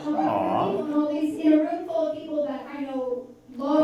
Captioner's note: none